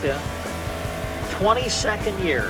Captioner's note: engine revving